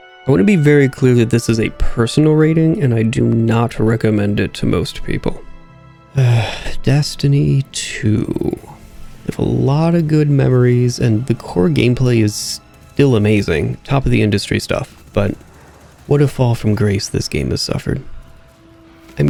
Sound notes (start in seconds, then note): 6.1 sigh